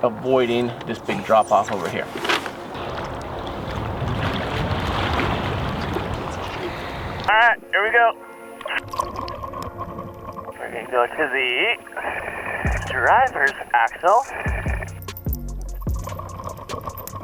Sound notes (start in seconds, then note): 4.9 water splashing; 8.8 serene music